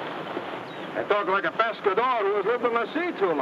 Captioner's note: speaks in foreign language